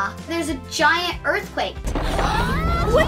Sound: rumbling sound

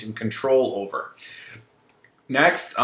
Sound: mouse clicking

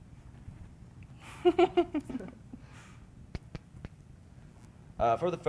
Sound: laughing

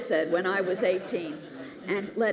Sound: laughter

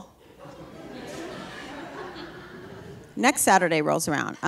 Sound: audience laughing

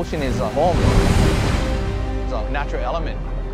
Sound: waves crashing

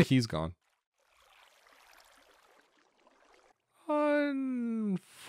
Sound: water Running

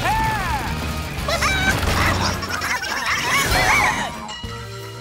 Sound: squawking

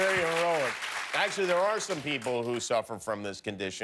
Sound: cheers and applause

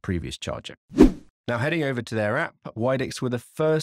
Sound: swooping transition

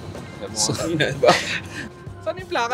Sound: laughs

